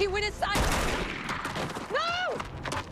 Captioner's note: gun firing